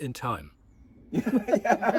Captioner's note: laughter